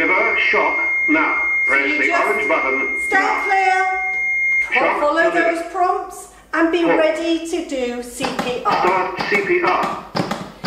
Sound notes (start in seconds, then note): 7.9 voiceover